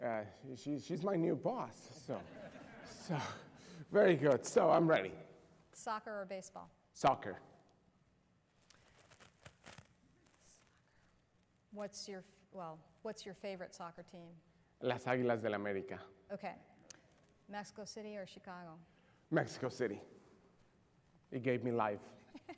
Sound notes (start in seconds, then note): 1.9 laughter; 15.6 Spanish; 22.2 laughter